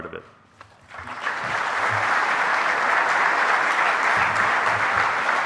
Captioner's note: audience applauding